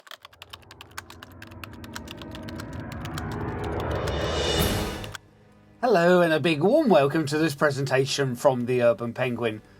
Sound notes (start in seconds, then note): 0.0 typewriter sounds